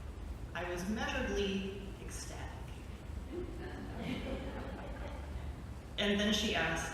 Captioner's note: light laughter